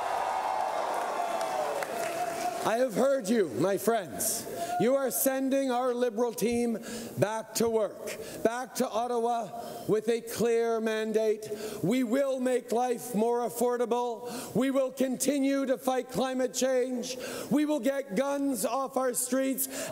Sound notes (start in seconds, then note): 2.1 cheering